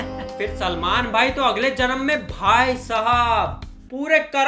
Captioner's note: none